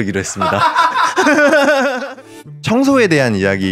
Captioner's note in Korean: 웃음소리; 폭소